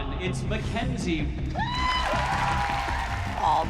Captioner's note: whooping